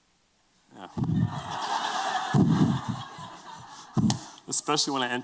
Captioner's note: laughter